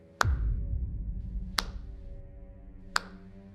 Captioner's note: Mack clapping